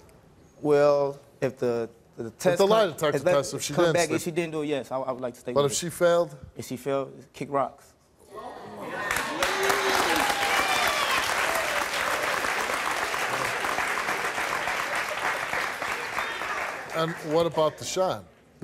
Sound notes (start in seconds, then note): 8.5 applauding